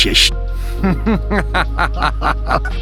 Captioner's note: additional evil villain laugh